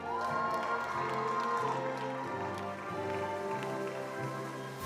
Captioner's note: attendees applauding